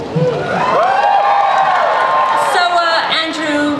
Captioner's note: audience cheers